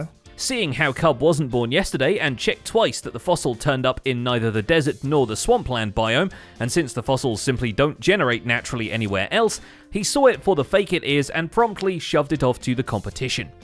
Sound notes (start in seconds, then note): none